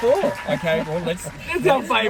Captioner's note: laughs